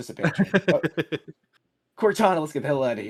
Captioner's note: laughing